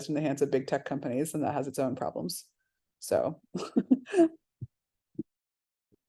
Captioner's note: laughs